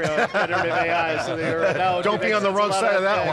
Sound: laughing

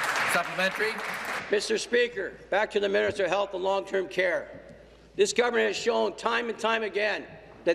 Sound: applause

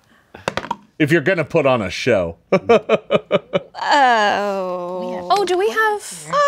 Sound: laughs; dice clatters

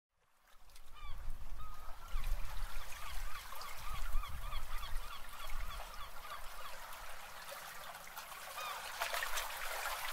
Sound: seaside sounds

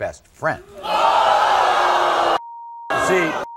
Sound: audience gasping

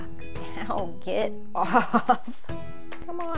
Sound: laughs

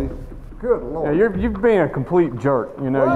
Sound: voiceover

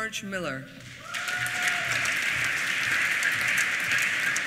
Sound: applause

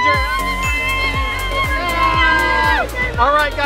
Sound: cheering

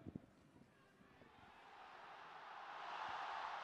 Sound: applause

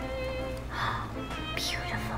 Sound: gasps

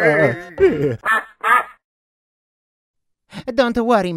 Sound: duck quacking

